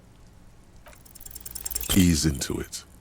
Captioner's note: dice clack